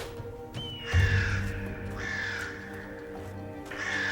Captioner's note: birds cawing